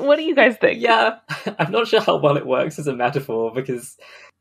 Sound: laughing; laughs

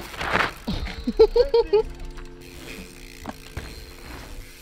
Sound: group laughing

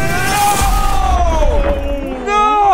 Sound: explosion noise

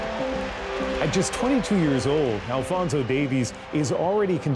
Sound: cheers and Applause

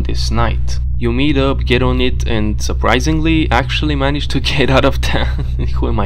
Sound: laughs

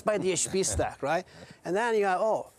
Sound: hosts laugh

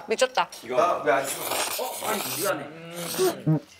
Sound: slurrrrp; slurping without a conscious

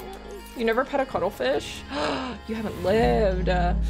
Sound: gasp

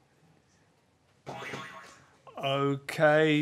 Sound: boing

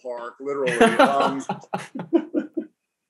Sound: laughs; chuckles

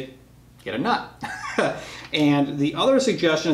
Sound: laughter

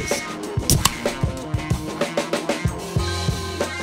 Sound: tasty beverage opening

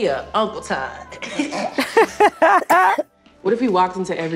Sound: laughs

